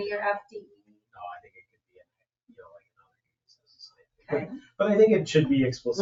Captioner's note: speaks distantly